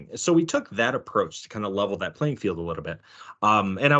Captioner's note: none